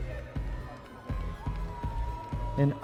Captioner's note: audience members cheering